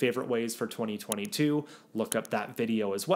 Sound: graphics clicking

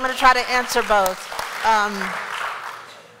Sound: applause

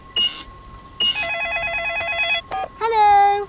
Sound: cash register beeping; beeps; cellphone ringing

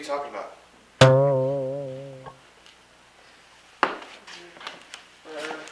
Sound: boing

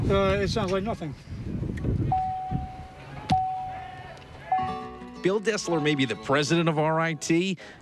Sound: chiming of door open bell

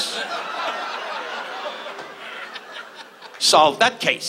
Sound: audience laughs

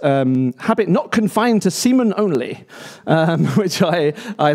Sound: laughs

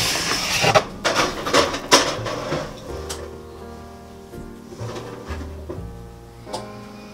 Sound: heated oven

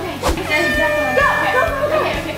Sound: air horn blows

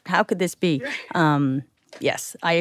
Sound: chuckles

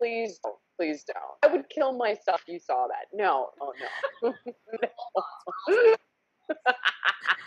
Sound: laughs

